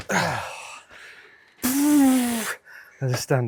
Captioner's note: blowing